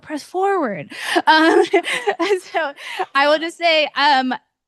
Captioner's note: laughs